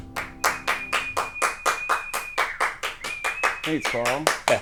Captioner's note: cheering